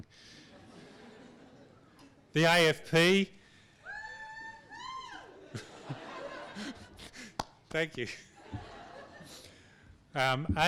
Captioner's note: audience laughs; audience member cheers; laughs